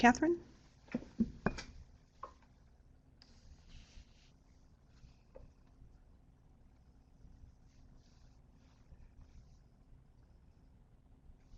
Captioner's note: no sound - waiting for questions